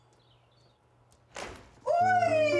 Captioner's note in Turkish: Kapı açılır